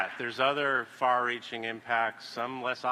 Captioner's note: applause